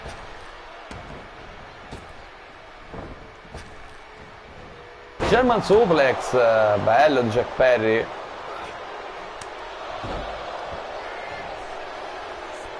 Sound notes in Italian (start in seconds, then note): 10.6 Applauso